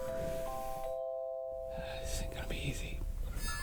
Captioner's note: Link sighs